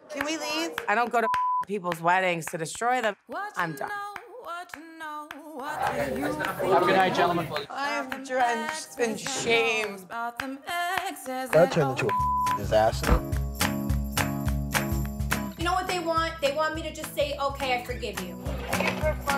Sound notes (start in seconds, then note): 1.2 beep; 12.0 beep; 13.9 upbeat music